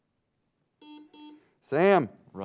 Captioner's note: buzzing sound